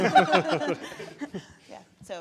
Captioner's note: audience laughing